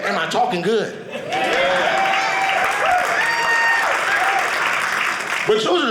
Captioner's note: audience applauding